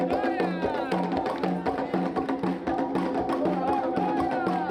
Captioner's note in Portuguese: Palmas ritmadas continuam